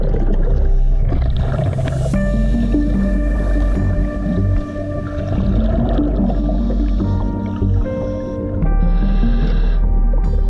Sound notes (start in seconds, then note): 2.3 underwater sounds continue